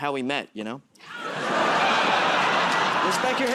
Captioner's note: laughter